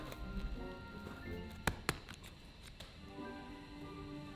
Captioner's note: gentle bright music; scissors snipping; gentle bright music